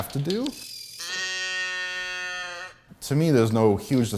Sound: toy moos

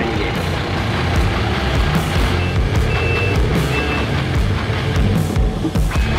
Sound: machines whirring; energetic rock music

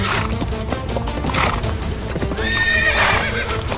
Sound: horse neighing

